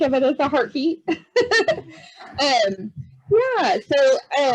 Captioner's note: chuckles